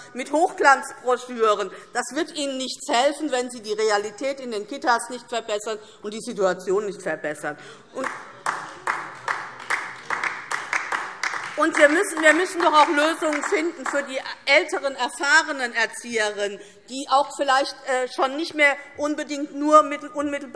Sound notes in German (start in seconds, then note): 7.9 Beifall DIE LINKE